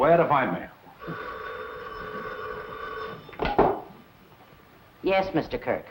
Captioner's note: phone rings